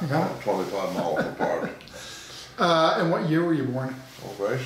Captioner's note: laughing